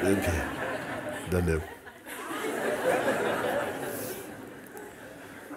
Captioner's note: laughter